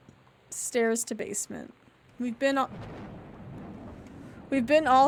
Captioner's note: thunder